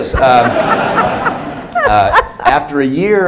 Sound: laughter

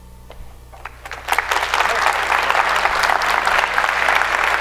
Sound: applause

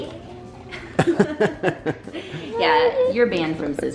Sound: laughing

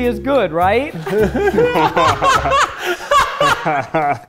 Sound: all laughing

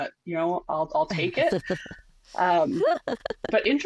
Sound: laughs

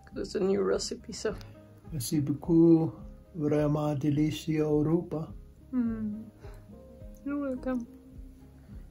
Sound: in French

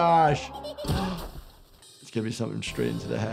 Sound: Cuddles laughing; snowball thuds

